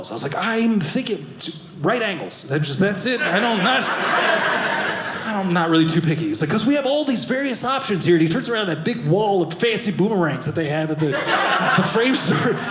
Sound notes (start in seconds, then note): 3.1 audience laughing; 11.0 audience laughing